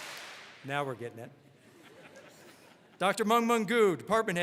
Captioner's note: all clap; audience laughs